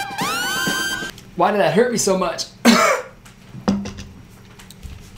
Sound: coughing

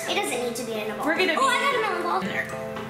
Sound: laughing

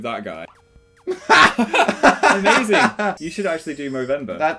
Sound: laughter

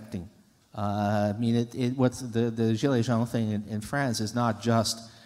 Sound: french

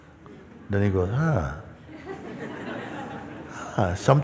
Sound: laughter

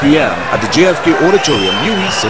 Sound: wild applause and cheering for 22 seconds

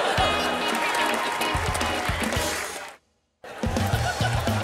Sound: cheering, applause

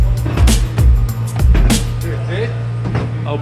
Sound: metal clanking

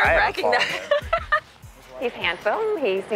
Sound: laughs

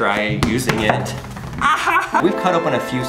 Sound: crying in pain

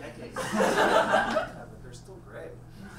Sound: audience laughs

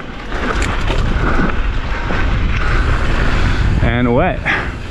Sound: gravel crunching

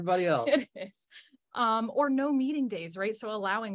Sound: chuckling

